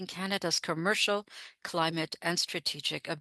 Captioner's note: speaking French